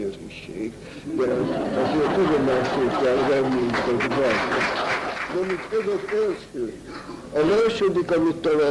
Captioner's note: laughter